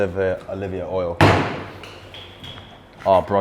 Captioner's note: bottle smashes